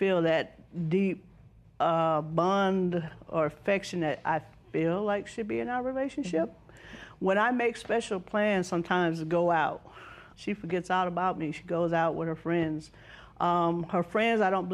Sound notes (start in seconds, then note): none